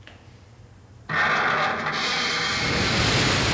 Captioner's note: metal moving